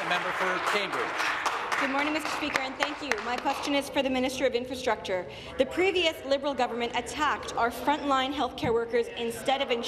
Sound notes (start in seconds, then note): 2.0 applause